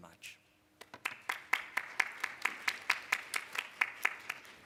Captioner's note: applause